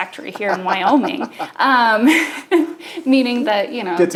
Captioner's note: both laughing